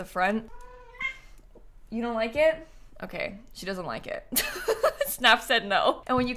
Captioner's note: meow